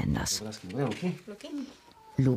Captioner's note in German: Leise Gesprächsfetzen